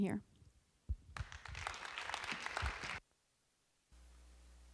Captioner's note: audience applause